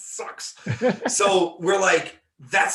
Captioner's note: laughing